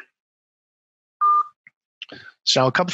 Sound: phone beeps

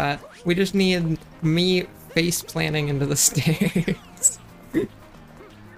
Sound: giggle; laughs

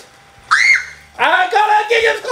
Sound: shrieks

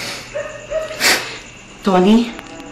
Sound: Toni sobbing

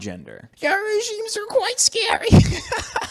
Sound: Ancom Centricide voice; laughs

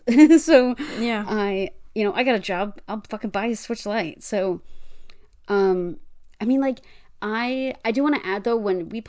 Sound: laughs

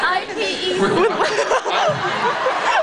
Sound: laughing; laughs

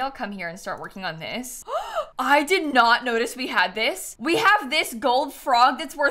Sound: gasps

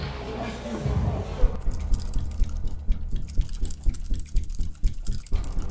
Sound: computer keys clicking

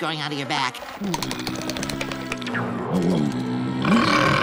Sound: groaning

